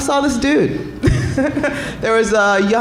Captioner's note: laughing